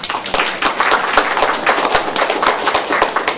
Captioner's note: applause